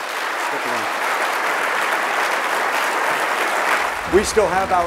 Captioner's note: audience clapping